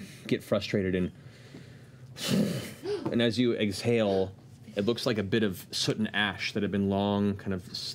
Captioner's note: sighs heavily